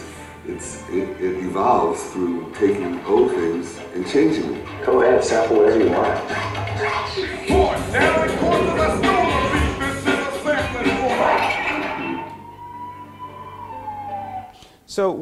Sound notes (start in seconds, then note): 11.5 record scratches; 12.8 sirens wailing